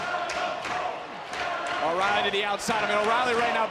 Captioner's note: audience chanting "adam cole"